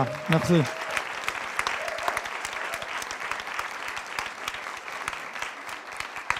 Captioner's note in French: applaudissements